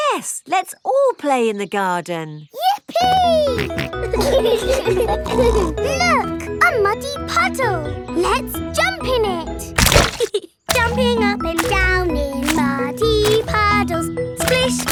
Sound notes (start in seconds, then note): 4.6 laughing